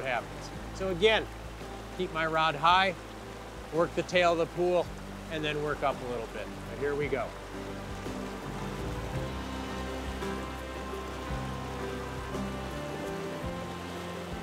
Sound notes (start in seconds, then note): 7.6 rushing water; 9.8 acoustic guitar music